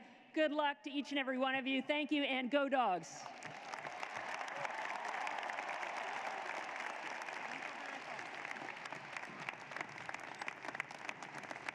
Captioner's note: applause